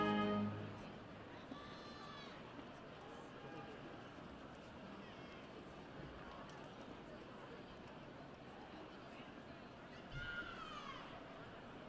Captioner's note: background conversations